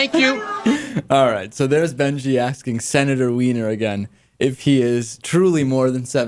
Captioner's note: laughs